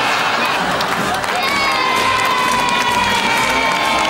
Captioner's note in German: Jubel